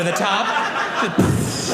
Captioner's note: audience laughing